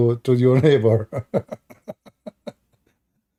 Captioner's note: Ketawa